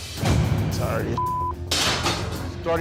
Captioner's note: beep